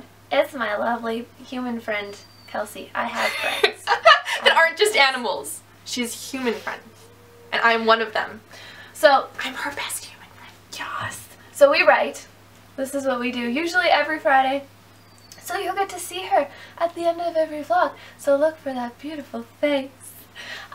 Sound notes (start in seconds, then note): 3.1 laughs; 9.4 whispers